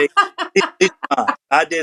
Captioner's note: laugh